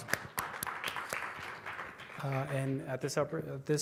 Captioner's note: applause